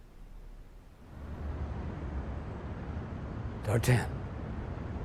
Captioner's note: traffic faintly whizzing